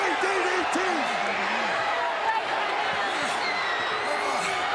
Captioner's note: crowd yelling